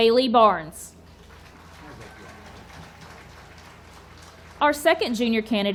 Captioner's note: audience applauding